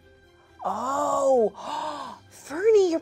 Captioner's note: gasps